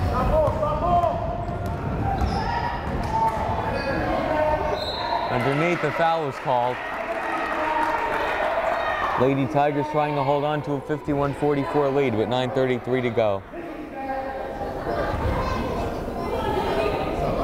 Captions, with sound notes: (crowd chattering) (whistle blows) Underneath, the foul is called. (crowd applauding) Lady Tigers trying to hold on to a 51-44 lead with 9:33 to go. (crowd chattering)